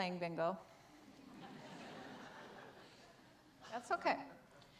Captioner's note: audience laughs